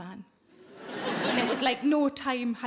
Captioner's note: audience laughing